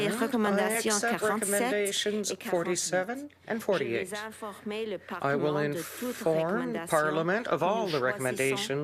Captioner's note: speaking French